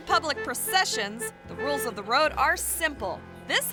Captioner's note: horn honking